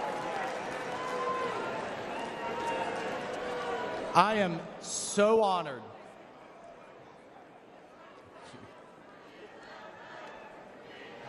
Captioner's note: applause